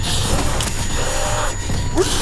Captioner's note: thud